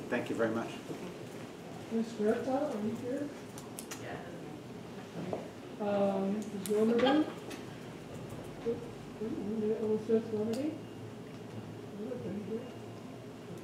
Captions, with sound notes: - Thank you very much. (faint chatter off camera)